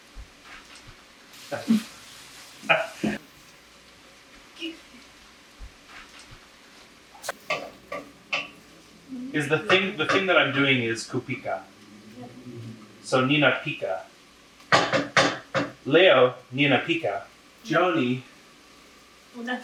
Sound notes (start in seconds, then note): 2.6 laughing